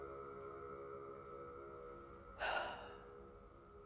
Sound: exhales

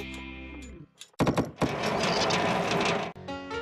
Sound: tapping; rumbling

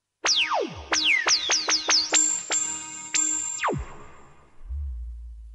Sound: laser-like synth sound

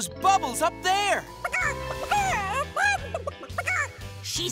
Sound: clucking

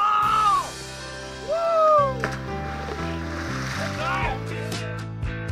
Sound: splash

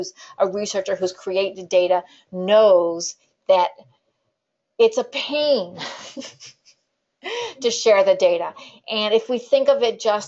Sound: laughs

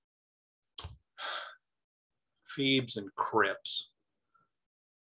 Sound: sighs

